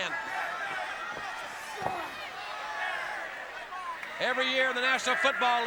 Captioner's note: crowd chatter